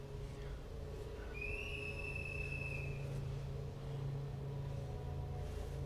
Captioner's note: whistle blows; dark atmospheric music